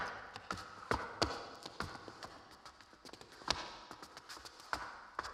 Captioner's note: shoes clacking